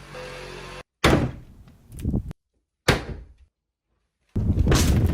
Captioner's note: wood thumping